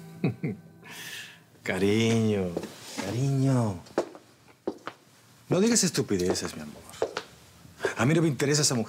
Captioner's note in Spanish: risas